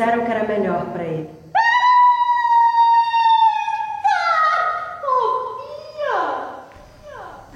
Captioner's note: voice, high-pitched